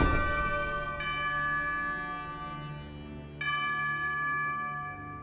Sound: bell sounds

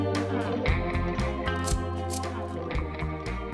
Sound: lighter clicking

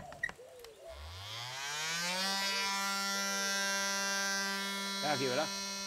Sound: buzzing

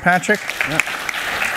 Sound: applause

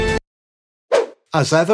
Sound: whoosh sfx

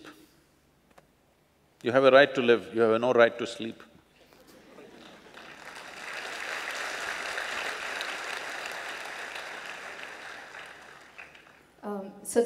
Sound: applause

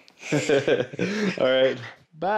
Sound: loud laugh

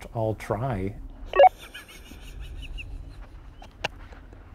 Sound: laughing

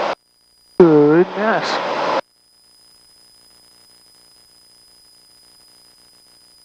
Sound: voice muffled due to headset quality

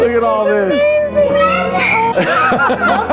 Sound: squeals with joy

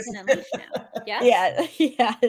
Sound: laughs

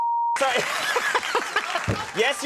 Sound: Conan laughing

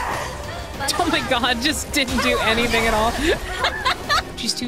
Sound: laughter

